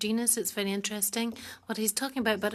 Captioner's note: speaking French